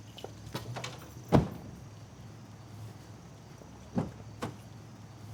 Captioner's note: door closing